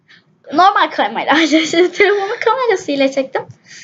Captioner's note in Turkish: gülüyor